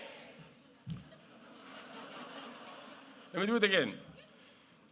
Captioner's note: laughter